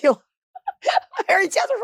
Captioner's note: Marguerite laughing